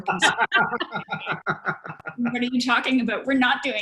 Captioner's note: laughter